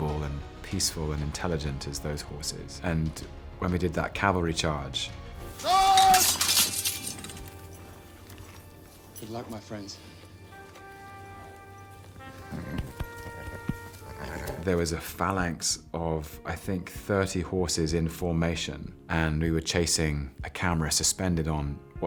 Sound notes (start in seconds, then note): 10.4 trumpet blowing; 12.2 horse neighing